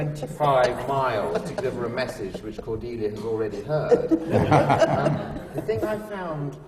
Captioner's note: laughter; laughter